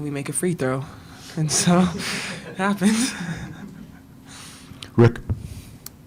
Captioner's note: chuckles